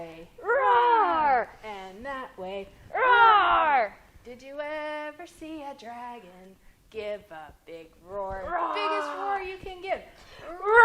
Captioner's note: roar!